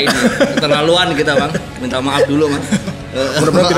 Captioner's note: laugh